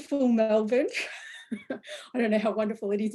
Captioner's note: laughs